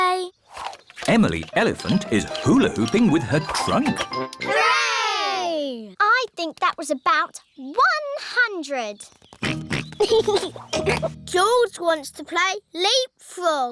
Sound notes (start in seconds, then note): 9.4 oinks and giggles